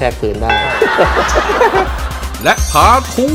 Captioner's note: laughter